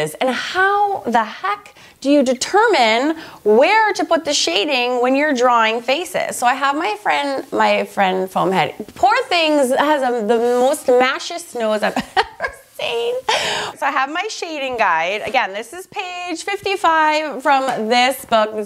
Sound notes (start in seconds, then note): 11.8 laughs